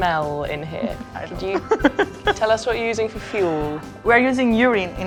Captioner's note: laughing